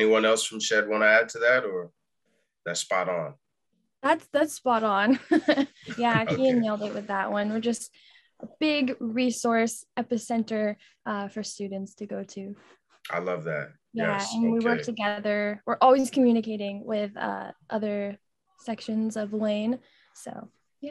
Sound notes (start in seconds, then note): 5.2 chuckles